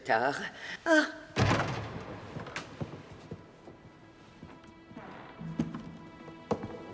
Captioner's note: door clattering; gentle dramatic music